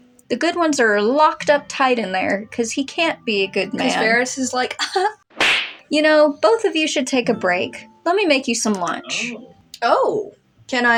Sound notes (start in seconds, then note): 4.9 chuckle; 5.3 slap